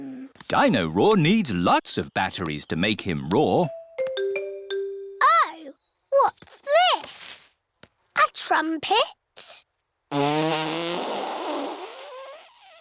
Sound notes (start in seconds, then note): 10.1 blows raspberry